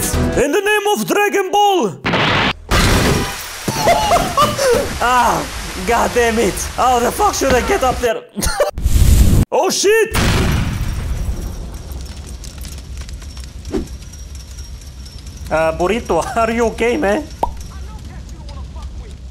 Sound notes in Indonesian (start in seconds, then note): 8.7 vhoom~; 10.2 mobil meledak; 17.4 pop